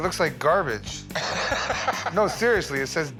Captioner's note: laughing